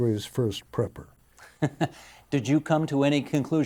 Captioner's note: chuckling